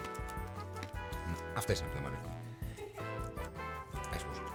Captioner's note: laughs